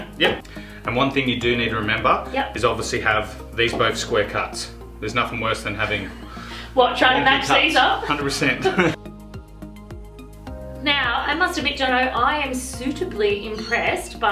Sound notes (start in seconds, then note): 8.5 laughs